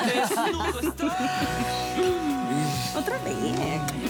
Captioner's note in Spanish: Risas